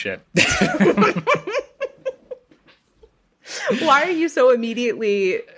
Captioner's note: laughs